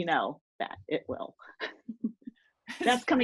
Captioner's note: laughing